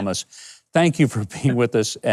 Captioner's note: laughing